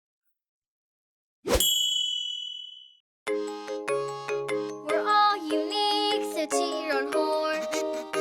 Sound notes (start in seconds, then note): 0.3 whoosh; 1.6 ding